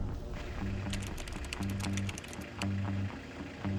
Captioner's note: car engines idling